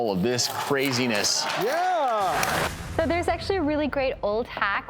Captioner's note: audience applauding